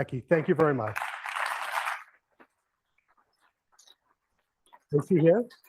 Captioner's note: applause